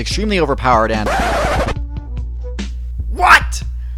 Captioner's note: record scratch